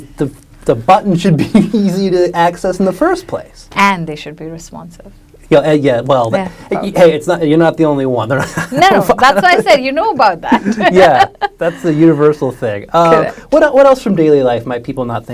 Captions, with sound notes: the button should be easy to access in the first place. - And they should be responsive. - Yeah, well. - Yeah, probably. - Hey, you're not the only one, (laughs) there are-- - No, that's why I say you know about that. (laughs) - Yeah. That's the universal thing. - Correct. - What else from daily life might people not think about?